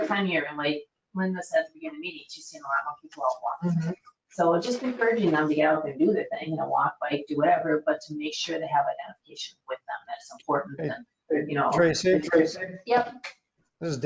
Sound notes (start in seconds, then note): 3.2 speaking faintly